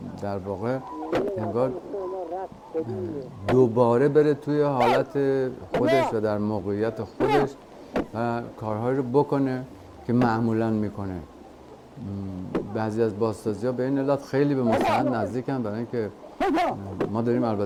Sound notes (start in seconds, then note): 0.2 speaking foreign language; 4.7 man shouting; 8.6 speaking foreign language; 14.8 man shouting